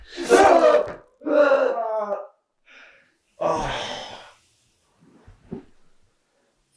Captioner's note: knife slashes; Brian groaning